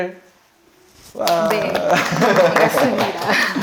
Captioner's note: shower of applause